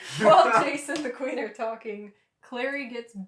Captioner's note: laughter